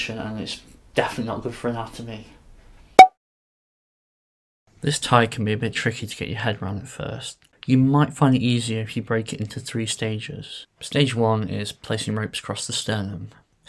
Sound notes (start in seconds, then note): 3.0 cork pops